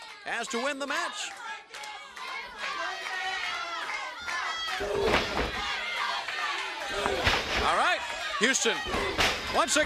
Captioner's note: crowd chatter